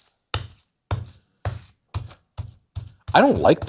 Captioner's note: tenderizer thumping